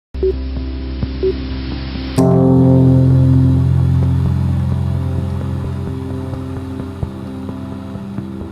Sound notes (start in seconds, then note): 1.2 soft beeping; 2.3 contemplative music